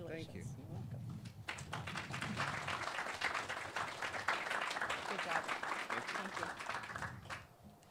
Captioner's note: clapping